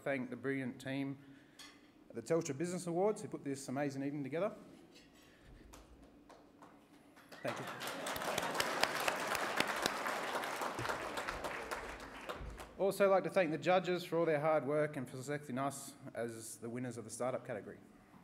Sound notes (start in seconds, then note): 5.2 light applause; 7.1 applause